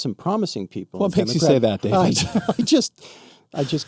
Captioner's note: laughs